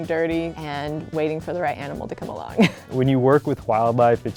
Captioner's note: laughs